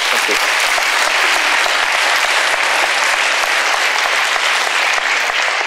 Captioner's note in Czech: potlesk